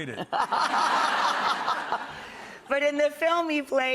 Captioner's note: audience laughs